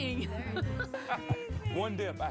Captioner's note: laughs